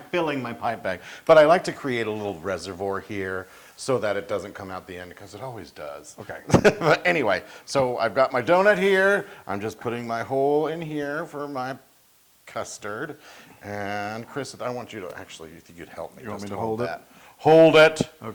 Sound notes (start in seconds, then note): 6.3 laugh